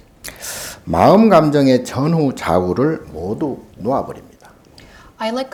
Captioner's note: speaking Korean